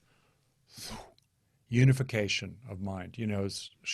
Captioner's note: whooshes breath